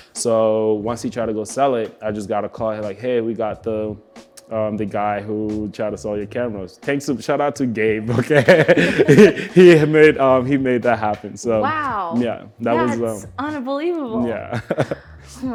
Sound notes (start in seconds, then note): 8.1 both laughing; 14.4 laughs